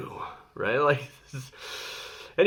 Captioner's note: laughing